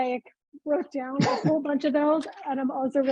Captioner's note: chuckling